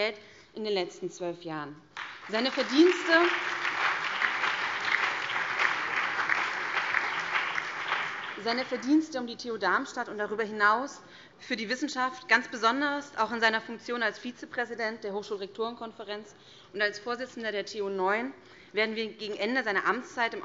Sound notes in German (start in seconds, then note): 1.9 Beifall BÜNDNIS 90/DIE GRÜNEN, CDU, SPD, Freie Demokraten und DIE LINKE